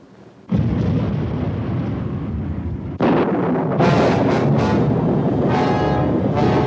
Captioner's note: thunderclap